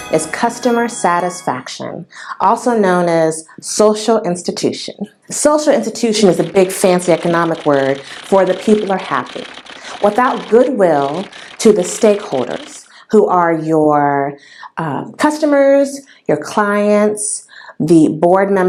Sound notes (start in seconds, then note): 0.0 sound effect; 6.4 typing sound